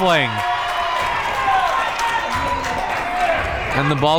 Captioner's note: crowd members cheering